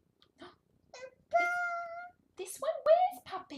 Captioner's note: babbling